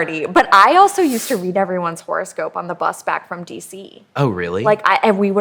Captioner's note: none